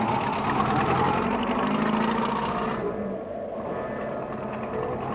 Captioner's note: engine rumbling